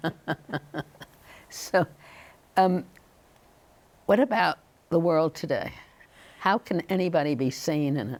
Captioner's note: laughing